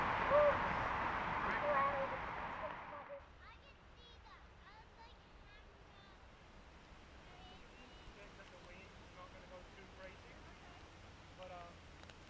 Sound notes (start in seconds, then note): 4.2 rain